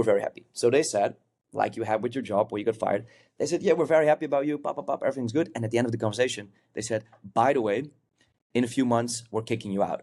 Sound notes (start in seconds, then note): none